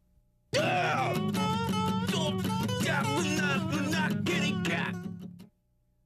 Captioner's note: grunting to music